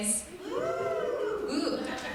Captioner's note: crowd Cheering